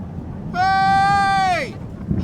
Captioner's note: thunder rumbling